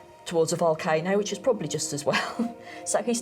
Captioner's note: chuckles